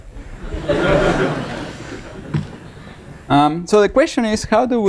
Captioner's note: laughter